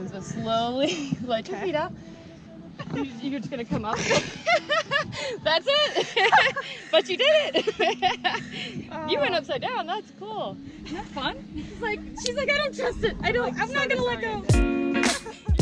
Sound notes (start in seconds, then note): 3.8 laughs